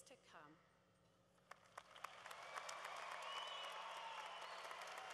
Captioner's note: cheering